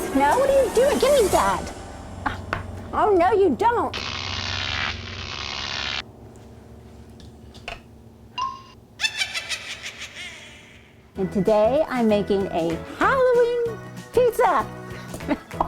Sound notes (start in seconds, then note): 3.9 electric zap; 9.0 witches laugh